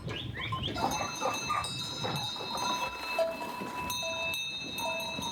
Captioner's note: sheep bells clanking